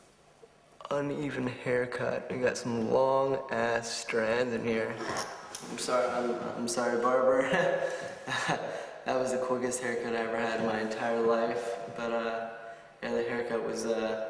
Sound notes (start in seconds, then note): 7.4 chuckles